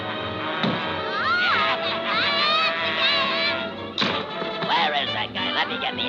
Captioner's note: vizier cackling; screaming